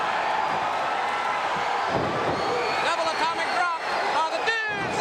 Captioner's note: crowd cheering